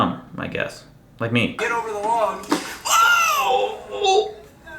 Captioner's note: screams